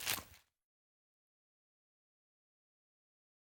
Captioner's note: crunching